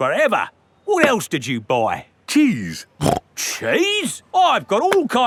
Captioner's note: snorts